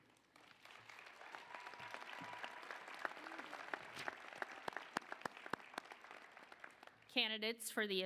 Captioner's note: applause